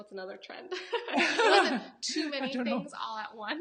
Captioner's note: both laughing